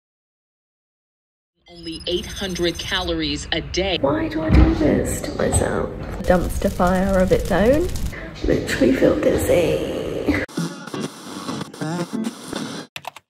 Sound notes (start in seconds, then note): 6.2 flames crackling; 8.1 echoing; 10.7 sound of radio changing stations